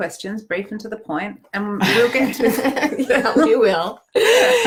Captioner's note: laughing